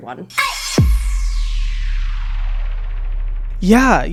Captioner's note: intense, digital swoosh